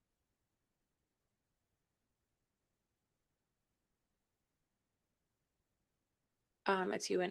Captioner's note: silence